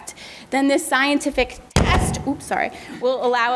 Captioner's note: booming